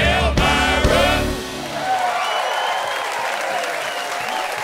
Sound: cheers and applause

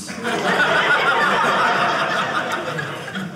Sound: audience laughing

